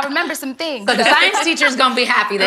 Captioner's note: ladies laughing